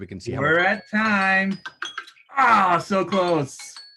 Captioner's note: bells ringing